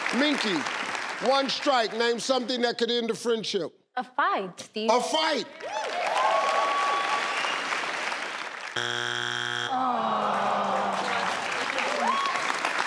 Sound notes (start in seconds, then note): 0.0 audience cheering; 5.6 audience cheering; 8.7 electronic buzzing; 9.7 audience groaning